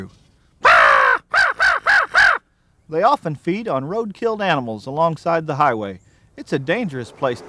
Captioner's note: crow call